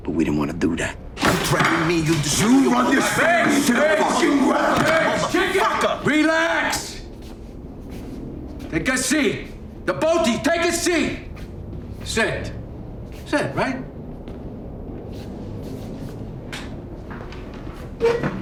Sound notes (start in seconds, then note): 1.2 chair sliding; 7.4 footsteps shuffling; 14.7 footsteps shuffling; 17.4 chair screeching